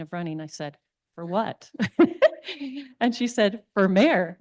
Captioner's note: chuckles